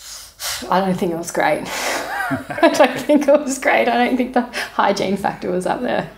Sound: laughing

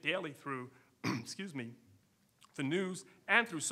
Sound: coughs

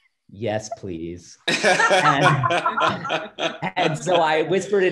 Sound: laughs

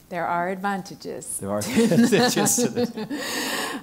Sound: laugh

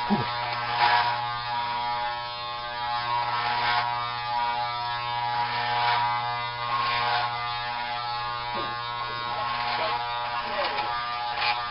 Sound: hair clippers

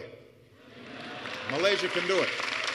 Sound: applause

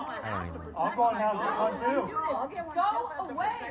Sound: chatter

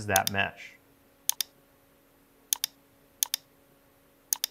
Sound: keyboard clicking

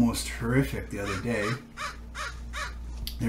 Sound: crows cawing

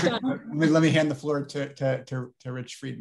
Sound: laughs

